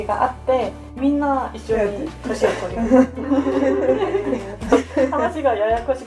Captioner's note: laughs